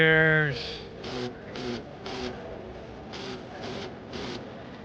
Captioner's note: phone buzzing